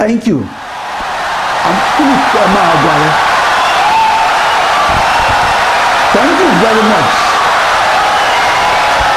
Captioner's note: wild applause and cheering for 17 seconds